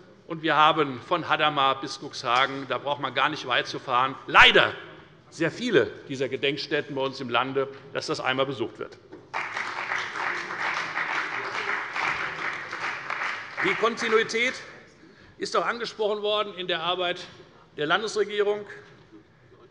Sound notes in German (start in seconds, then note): 9.3 Beifall bei der FDP und bei Abgeordneten der CDU